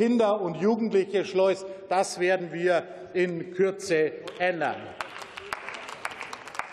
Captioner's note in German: Beifall